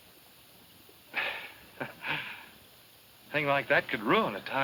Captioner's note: chuckles